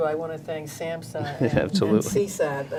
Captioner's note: laughs